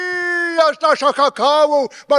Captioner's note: speaking in foreign language